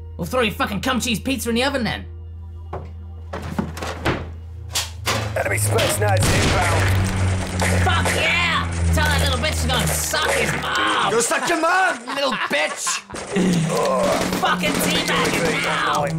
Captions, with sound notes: Well throw your fucking cum cheese pizza in the oven then. (video game noises) Fuck yeah! Tell that little bitch to go suck his mom! Go suck your mom you little bitch! Fucking teabag him now.